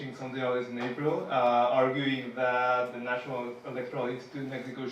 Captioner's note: speaking Spanish